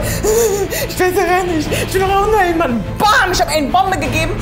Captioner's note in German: Schluchzend